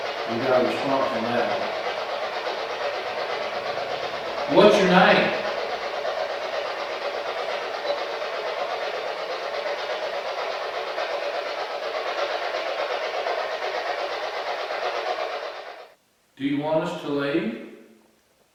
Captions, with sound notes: We got a response on that one. [White Noise] What's your name? [White Noise] Do you want us to leave?